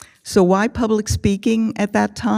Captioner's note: none